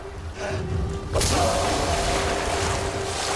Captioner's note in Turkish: Yumruk Sesi